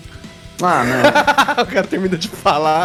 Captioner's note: Guaxi laughs